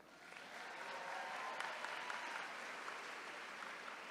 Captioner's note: attendees cheering